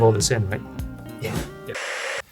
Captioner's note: static